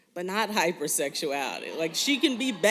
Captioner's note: laughter